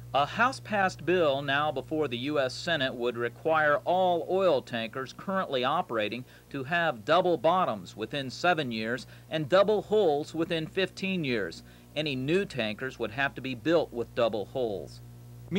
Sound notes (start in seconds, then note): none